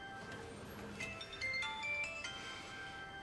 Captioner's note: mobile rings